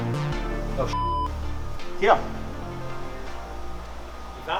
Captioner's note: beep